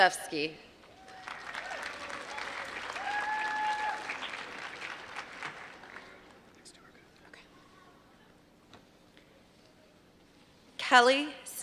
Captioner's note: applause